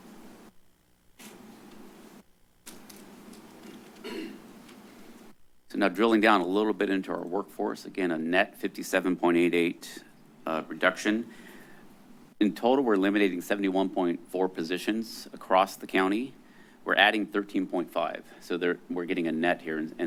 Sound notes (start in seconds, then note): 1.1 pause; 4.0 clears throat